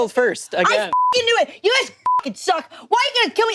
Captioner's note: beep